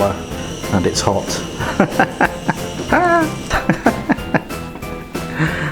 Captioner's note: LAUGHING and CACKLING